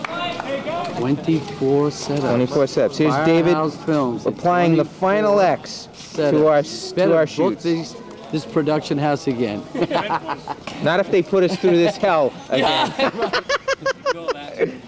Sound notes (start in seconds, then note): 0.0 cannon fire followed by applause; 9.7 laughs; 14.3 laughs